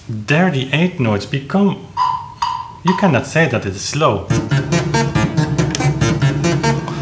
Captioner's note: ticking metronome